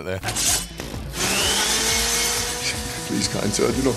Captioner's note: device whirring